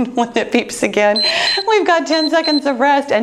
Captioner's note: timer beeps